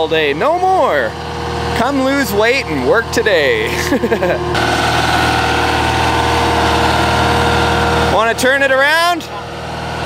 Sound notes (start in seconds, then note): 3.6 laughing